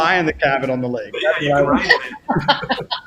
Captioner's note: laughter